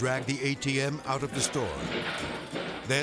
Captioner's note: objects clattering